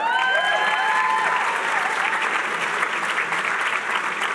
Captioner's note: applause